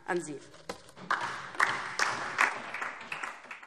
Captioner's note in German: Beifall DIE LINKE und vereinzelt SPD